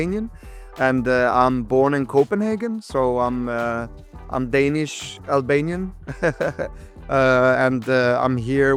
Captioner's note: laughs